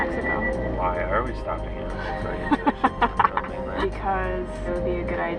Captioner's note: laughing